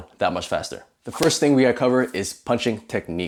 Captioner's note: air whooshing